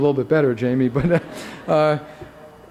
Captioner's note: laughter